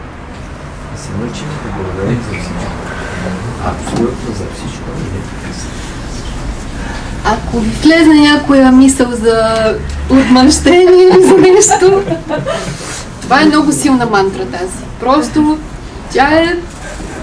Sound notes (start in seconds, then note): 10.7 she laughs